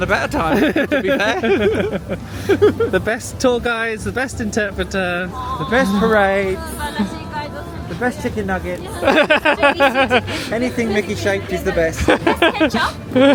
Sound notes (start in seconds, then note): 0.4 laughing; 8.8 laughing